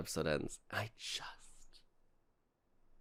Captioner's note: wistfully